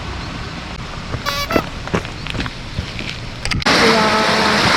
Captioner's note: laughs